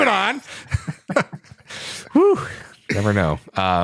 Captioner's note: laughter